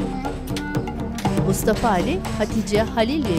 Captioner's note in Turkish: Kapı açılma sesi